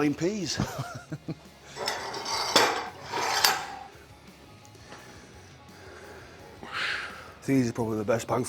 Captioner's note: laugh